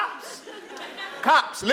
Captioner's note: laugh